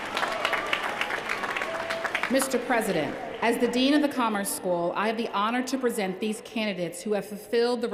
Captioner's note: cheers & applause